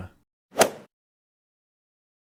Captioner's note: swoosh